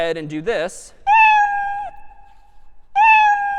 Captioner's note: meowing